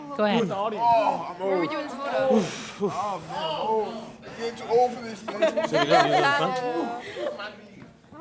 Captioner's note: chatter